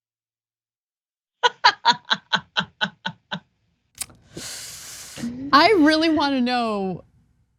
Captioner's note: laugh